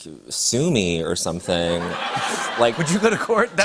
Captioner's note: laughter